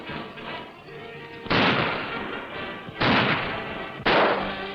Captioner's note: guns firing